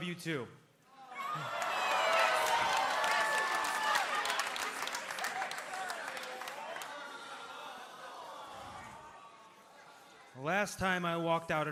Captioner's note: cheers and applause